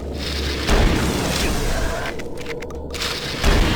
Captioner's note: gun firing